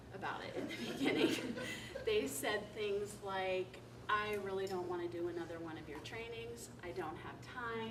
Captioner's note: laughter